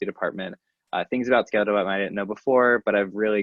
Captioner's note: faintly speaking